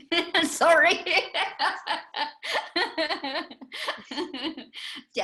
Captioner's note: laughter